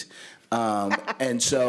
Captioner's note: laughter